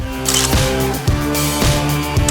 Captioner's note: photoclick